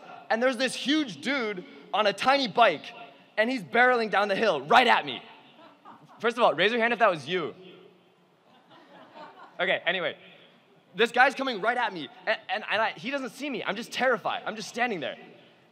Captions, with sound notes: and there's this huge dude on a tiny bike, and he's barreling down the hill right at me. First of all, raise your hand if that was you. (laughing) Okay, anyway. This guy's coming right at me, and he doesn't see me, I'm just terrified! I'm just standing there.